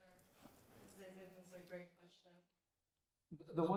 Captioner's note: speaking faintly